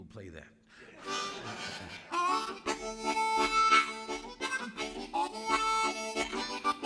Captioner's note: audience laughing; lively music